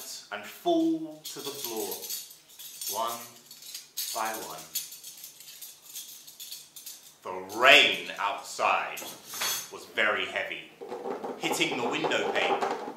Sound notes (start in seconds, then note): 4.5 sound of rustling of metal; 10.9 sound of tapping on a tin box